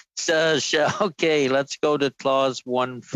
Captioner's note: laughter